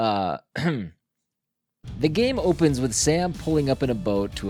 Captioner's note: clears Throat